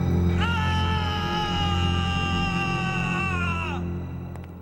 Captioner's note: screaming